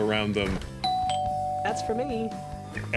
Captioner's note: bell dings